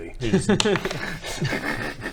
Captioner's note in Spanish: risas